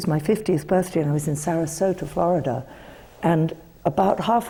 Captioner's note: none